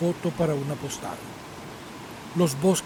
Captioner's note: waterfalls sound